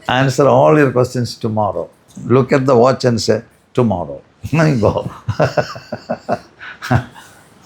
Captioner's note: laughter